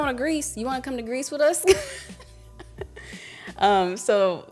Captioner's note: laughs